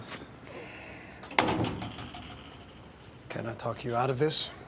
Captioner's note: door clatters shut